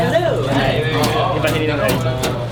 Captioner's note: indistinct chatter